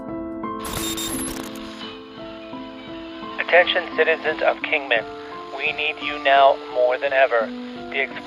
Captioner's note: radio station broadcast